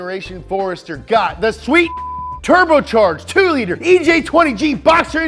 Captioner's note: beeping